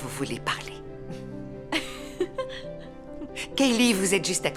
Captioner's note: laughter